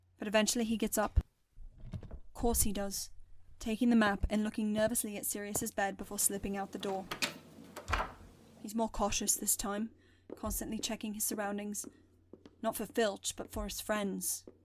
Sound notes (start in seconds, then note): 6.4 door opening; 12.3 footsteps